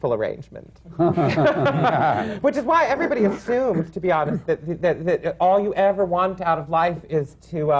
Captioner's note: laughter